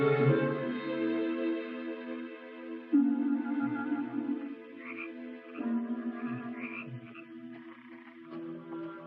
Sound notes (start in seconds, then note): 2.5 suspenseful orchestral music continues; 5.1 frogs croaking